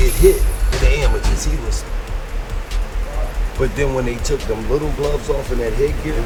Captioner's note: people chattering; gloves banging